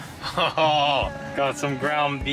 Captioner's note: laughing